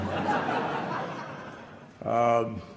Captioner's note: laughter